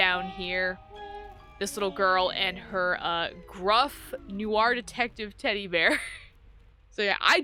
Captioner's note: laughs